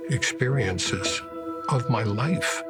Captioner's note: fire crackling